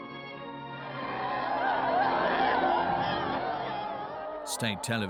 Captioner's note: crowd sobbing